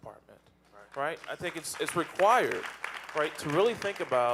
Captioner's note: audience applauding